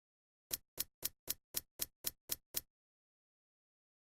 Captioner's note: graphics clicking